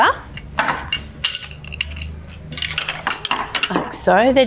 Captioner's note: poles clanging